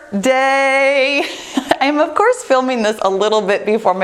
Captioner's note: laughs